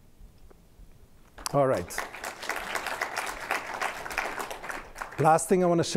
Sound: applause

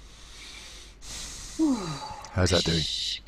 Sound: sighs

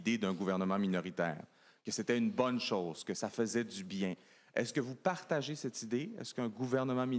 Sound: speaking FRENCH

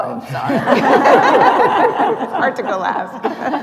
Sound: laughter

